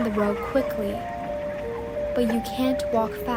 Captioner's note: laughing